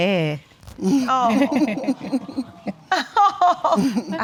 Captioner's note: chuckles